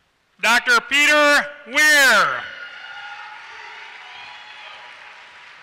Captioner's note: applause